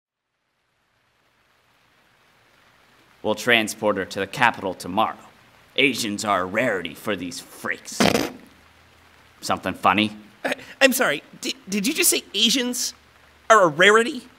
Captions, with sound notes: We'll transport her to the capitol tomorrow. Asians are rarity for these freaks. [Snickers] Something funny? I'm sorry. Di-did you say ASIANS are a rarity?